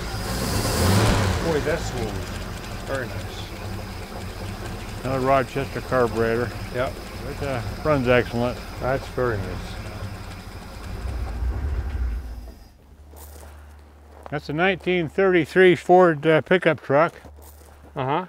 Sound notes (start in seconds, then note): 0.3 engine revs; 10.7 vehicle turns off